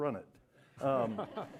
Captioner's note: laughter